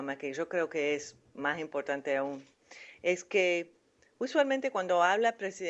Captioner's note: in Spanish